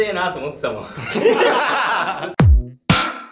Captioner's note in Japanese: 一同笑